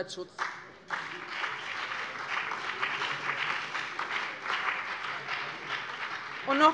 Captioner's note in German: Beifall BÜNDNIS 90/DIE GRÜNEN und DIE LINKE